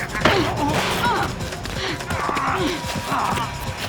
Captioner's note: breathing heavily